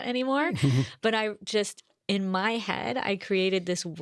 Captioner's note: chuckles